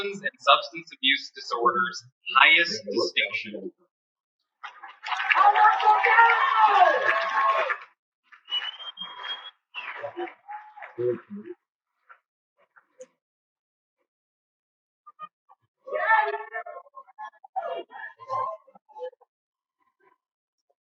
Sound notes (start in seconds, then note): 4.6 cheering; 4.6 cheers and Applause